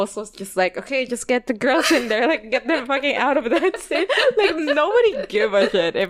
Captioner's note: both laugh